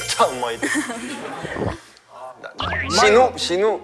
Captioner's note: mouth watering